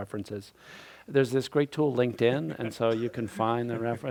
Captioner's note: laughter